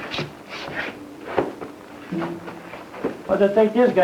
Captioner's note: footsteps shuffling